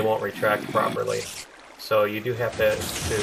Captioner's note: spider hissing